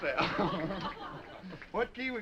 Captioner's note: all laughing; Boatwhistle laughing